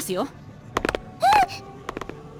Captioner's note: surprised gasp